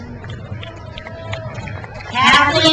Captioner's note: crowd applauds